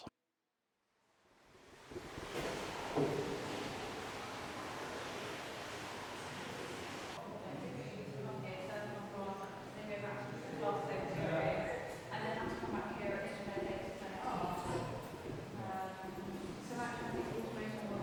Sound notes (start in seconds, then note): 12.7 background talking